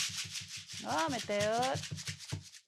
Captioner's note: drum beating; maraca rattles; speaks in foreign language